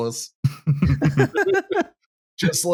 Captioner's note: laughter